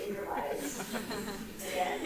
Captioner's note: audience laughing